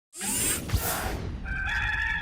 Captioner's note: electrical whooshing; rooster crows